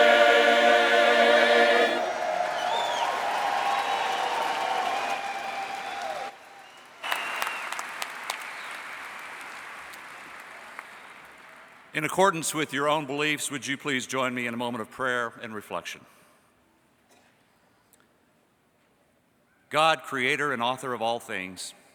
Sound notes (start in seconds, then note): 1.6 cheering and Applause